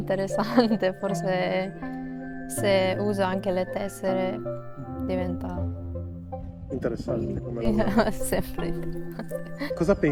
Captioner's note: laughs